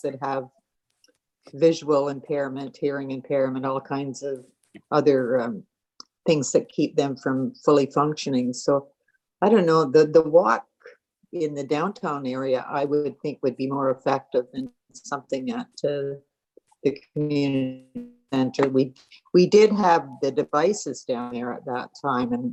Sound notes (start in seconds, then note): none